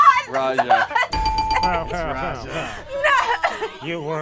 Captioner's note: laughs; bell rings